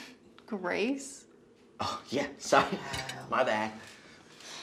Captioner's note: laughs